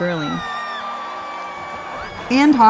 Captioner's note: cheering